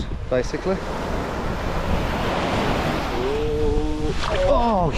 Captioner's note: waves crashing